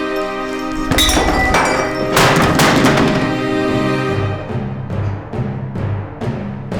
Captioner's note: glass clattering; objects clattering; dramatic orchestral music